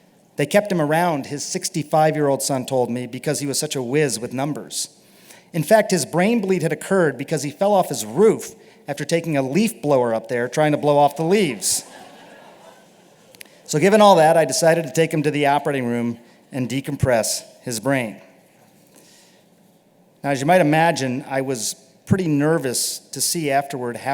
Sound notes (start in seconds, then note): 11.6 laughter